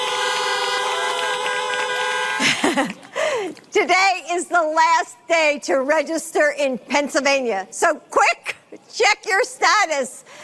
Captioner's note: horns honking